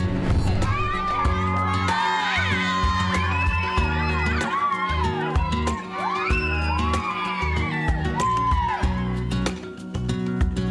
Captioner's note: cheering